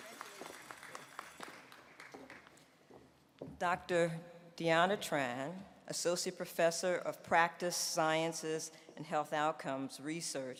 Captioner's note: applause